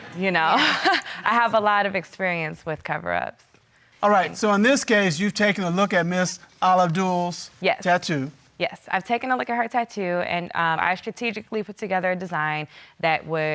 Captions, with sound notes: So, you know, (LAUGHS) I have a lot of experience with cove-ups. All right. So in this case, you've taken a look at Ms. Al Ahdul's tattoo? Yes, yes. I've taken a look at her tattoo, and I've strategically put together a design